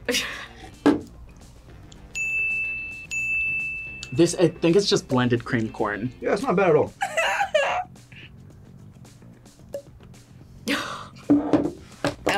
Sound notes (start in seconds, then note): 0.1 laughs; 2.1 bell rings; 7.1 whimpers; 10.8 laughs